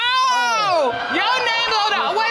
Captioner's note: audience exclaims